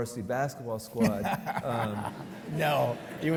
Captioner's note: laughs